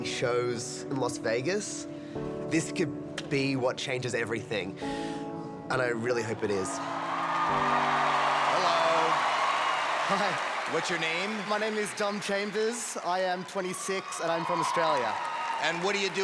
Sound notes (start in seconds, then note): 7.4 cheering